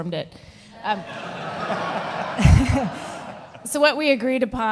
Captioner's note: audience laughing